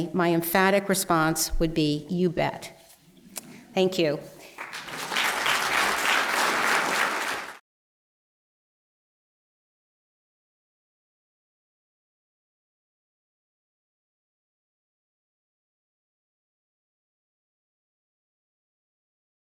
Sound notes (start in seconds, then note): 4.4 applause